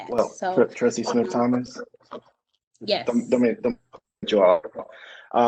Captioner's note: audio distorting